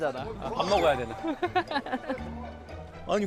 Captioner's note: kekeke